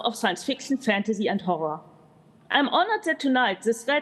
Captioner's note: none